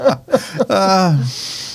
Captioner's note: laughing